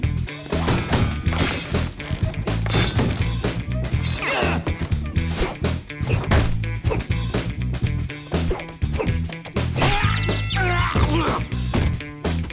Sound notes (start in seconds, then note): 4.1 grunting; 10.7 grunting